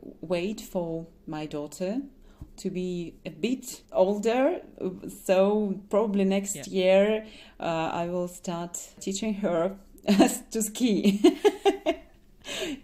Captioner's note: laughs